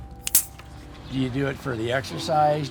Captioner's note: bike pump clicks